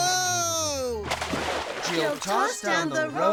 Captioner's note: yelling; water splashing